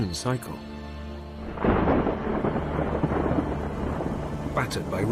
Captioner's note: crackling thunder